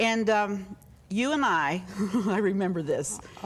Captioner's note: chuckles